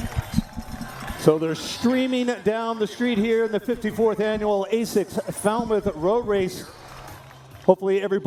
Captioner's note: snorts